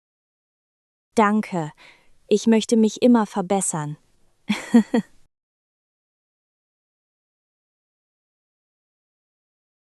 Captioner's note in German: lacht